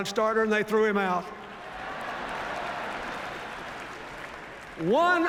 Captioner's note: laughter, applause